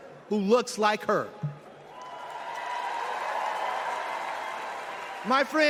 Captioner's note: applause and cheers